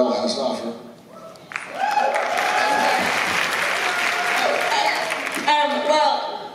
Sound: applause

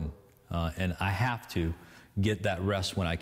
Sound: none

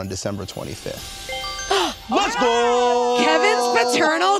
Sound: twinkling

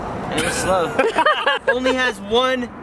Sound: laughing

